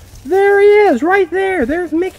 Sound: voiceover

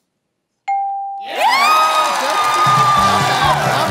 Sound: cheering/applause

